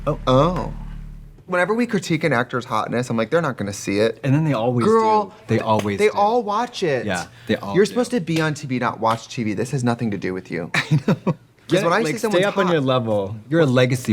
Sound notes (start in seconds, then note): 10.9 Katya laughs